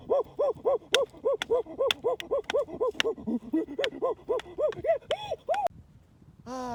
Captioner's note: hooting and grunting